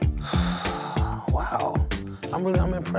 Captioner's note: exhales deeply